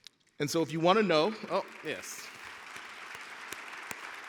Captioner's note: audience cheering